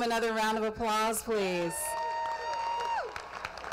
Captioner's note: applause